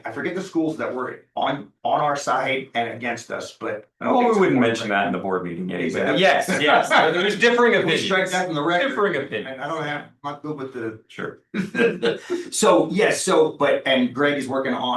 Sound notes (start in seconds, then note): 6.5 laughs